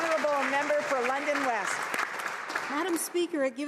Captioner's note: some Applause